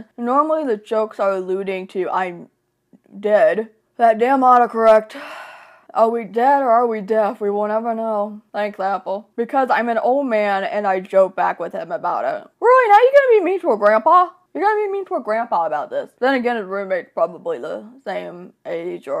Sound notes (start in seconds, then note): 5.2 sighs